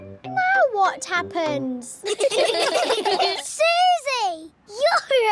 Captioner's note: all giggling